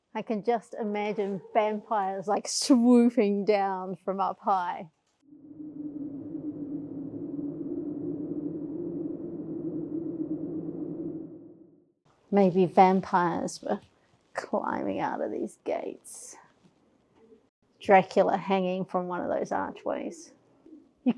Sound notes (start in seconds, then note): 12.3 eerie wind sounds